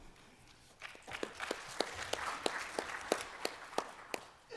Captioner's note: applause